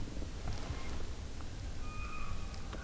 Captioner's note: elk bugling